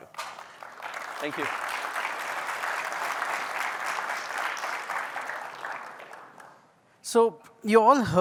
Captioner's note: applause